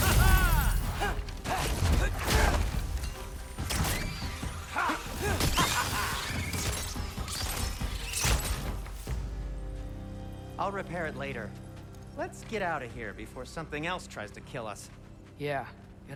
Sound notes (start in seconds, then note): none